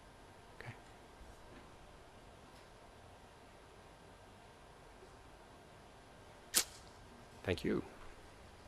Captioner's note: silence